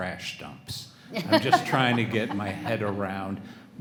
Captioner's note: everyone laughs